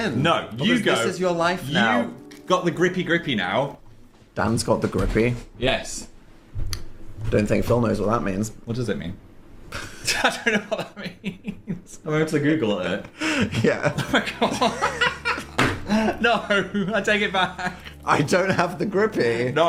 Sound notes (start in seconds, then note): 13.1 laugh; 13.1 laughing